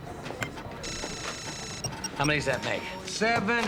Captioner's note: computer beeping and trilling